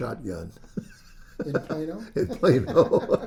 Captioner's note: laughs